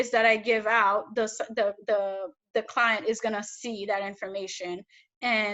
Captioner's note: none